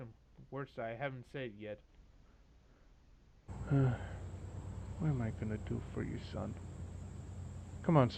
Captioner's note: sighs